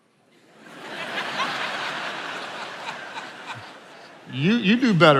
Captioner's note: attendees laughing